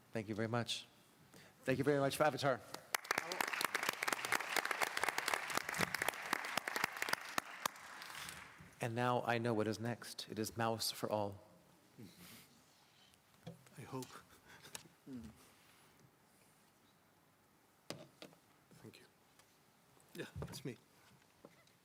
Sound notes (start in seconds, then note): 6.9 applause